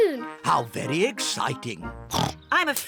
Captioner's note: oinks